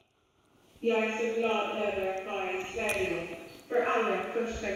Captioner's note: AI speaking Swedish